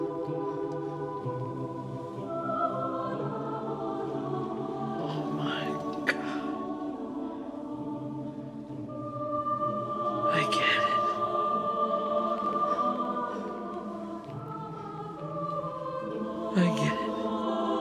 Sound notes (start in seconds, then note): 3.8 whispering